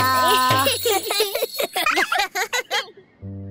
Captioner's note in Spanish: Risas